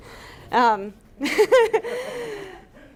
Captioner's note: laughter